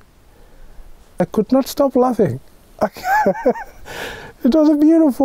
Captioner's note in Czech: smích